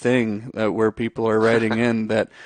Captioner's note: chuckles; laughs